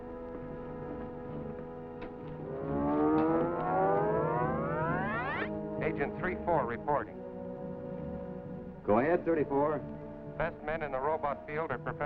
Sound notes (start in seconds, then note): 2.2 scanner whining